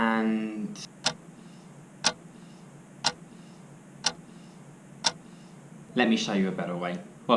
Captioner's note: clock ticking